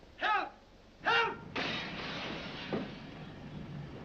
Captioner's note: glass shattering